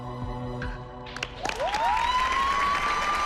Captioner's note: cheers and applause